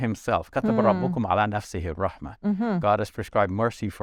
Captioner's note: speaks in foreign language